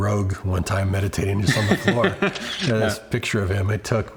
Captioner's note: camera shutter clicks